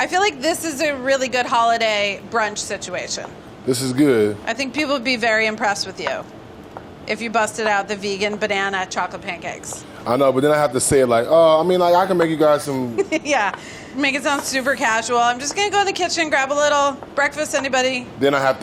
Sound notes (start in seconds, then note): 13.4 laughs